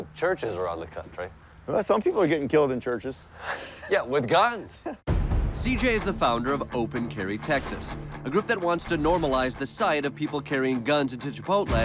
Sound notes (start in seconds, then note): 4.7 giggles